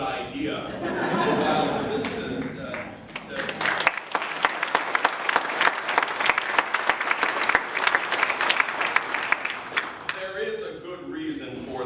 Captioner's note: applause